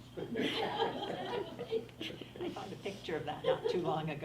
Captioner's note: everyone laughs